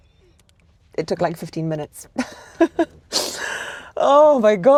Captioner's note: laughs